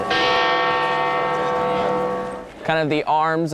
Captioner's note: bell tolls